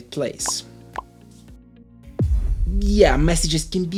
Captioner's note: popping sound